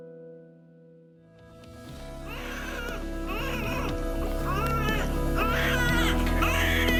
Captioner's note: baby crying